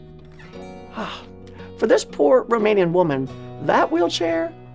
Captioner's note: sighs